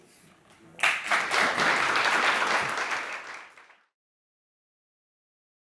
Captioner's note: audience applauding